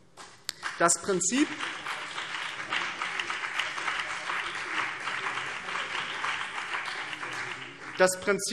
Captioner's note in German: Beifall BÜNDNIS 90/DIE GRÜNEN und vereinzelt CDU